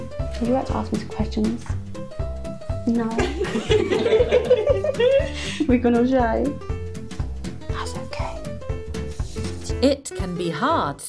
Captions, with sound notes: Would you like to ask me some questions? no *laughter* We gone all shy, thats okay